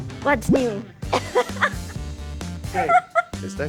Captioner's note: laughter